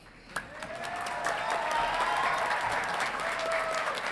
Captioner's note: audience clapping